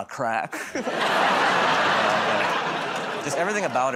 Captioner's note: laughter